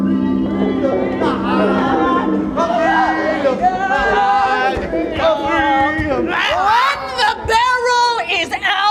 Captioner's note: drunken crying